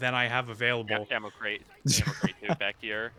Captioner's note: laughter